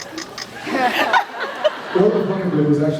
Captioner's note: laughs